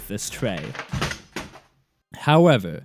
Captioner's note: keyboard crashing to the ground